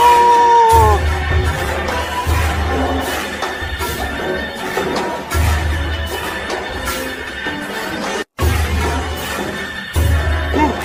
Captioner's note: Patrick Star screaming